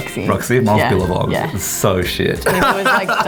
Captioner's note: laughing